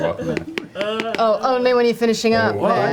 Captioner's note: sobs